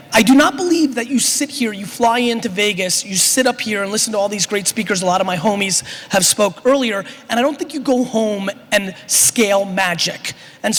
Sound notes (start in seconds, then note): none